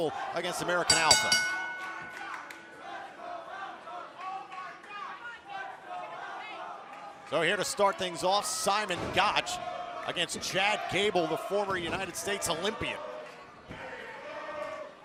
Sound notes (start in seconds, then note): 3.5 bell ringing